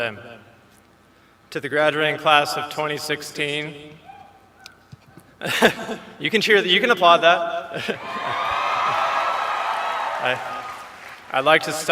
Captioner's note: laughter